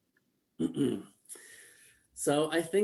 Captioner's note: clear throat